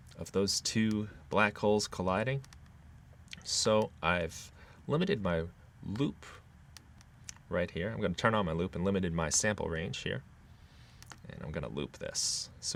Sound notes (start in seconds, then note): none